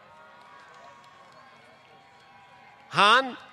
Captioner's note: applause